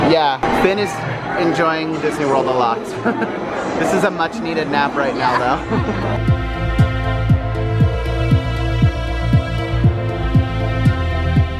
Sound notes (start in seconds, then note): 5.1 chuckles; 5.6 mellow music